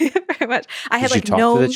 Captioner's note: chuckles